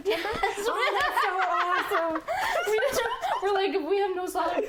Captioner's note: both laughing